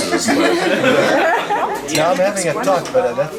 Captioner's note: cheerful laughing